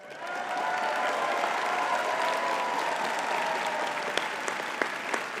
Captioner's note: audience cheering and clapping